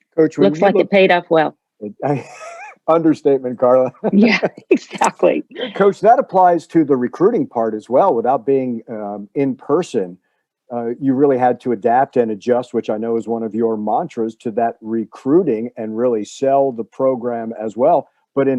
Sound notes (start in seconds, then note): 1.9 laughing